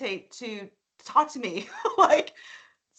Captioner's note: laughing